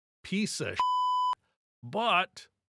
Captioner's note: beep